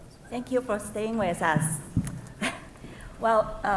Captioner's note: laughs